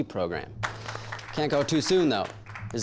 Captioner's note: crowd applauding